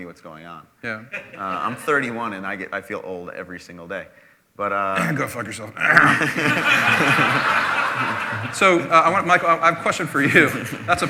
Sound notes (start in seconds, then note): 4.9 clearing throat; 5.9 laughter